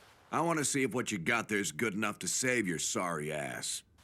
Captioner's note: none